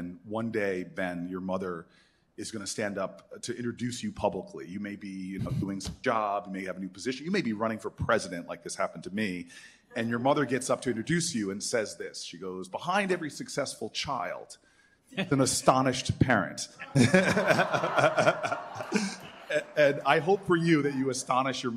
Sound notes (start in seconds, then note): 16.9 laughter